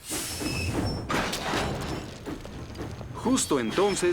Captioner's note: clang!